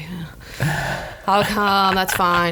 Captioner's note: laughs